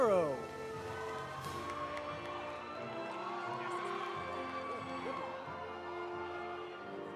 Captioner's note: audience cheering; audience applauding